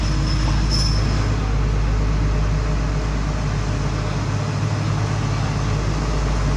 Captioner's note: engine rumble